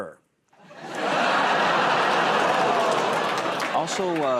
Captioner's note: laughter